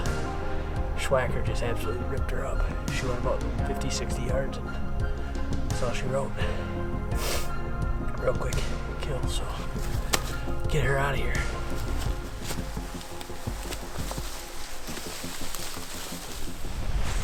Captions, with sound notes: The swhacker just absolutely ripped her up, she went about 50/60 yards and that's all she wrote. (sniffles) a quick kill so, get her out of here. (leaves rustling)